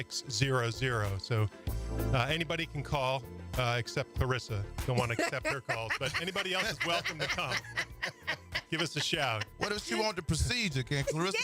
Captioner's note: laughter